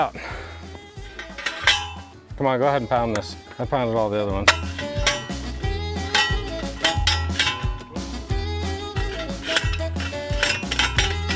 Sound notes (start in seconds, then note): 0.3 upbeat music; 1.6 pole pounder clanging; 1.6 upbeat music; 4.6 pole pounder clanging; 4.6 upbeat music